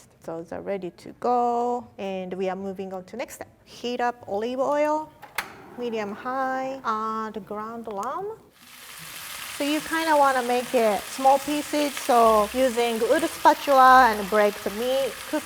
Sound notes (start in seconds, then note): 8.6 meat sizzles